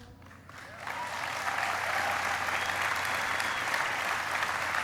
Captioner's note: applauding